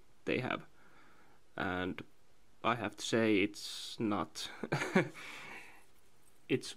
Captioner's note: heh